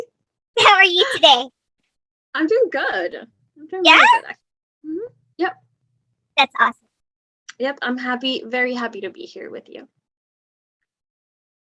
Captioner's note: super excited voice